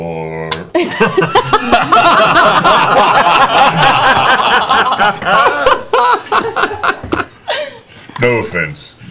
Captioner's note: laughing